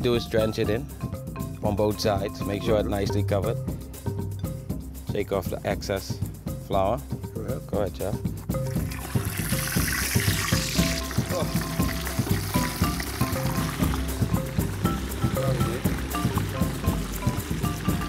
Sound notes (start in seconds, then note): 10.0 sizzling